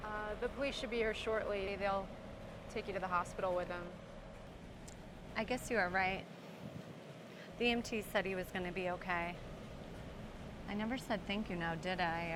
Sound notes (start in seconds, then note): none